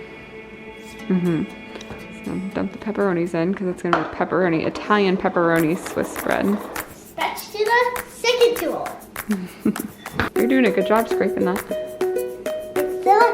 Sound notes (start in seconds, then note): 9.2 laughs; 12.4 upbeat music